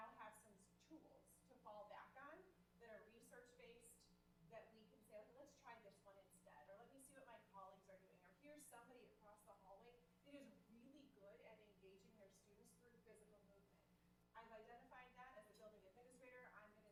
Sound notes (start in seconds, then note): none